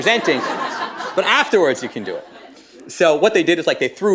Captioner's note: laughter